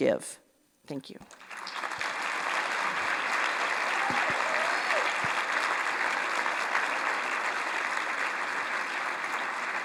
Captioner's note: applause